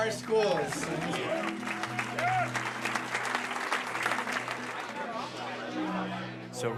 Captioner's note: applause